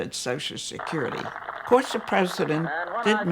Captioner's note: applause